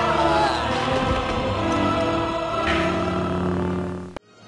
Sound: Droids moaning; lightsaber turns off

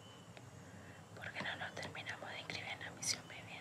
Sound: whispering

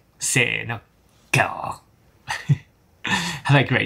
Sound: lion roar in Japanese

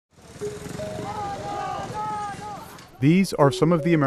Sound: shouting

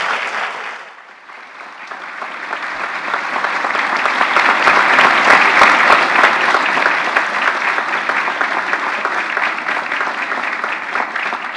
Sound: applause

